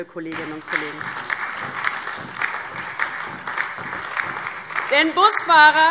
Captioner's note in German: Beifall DIE LINKE und SPD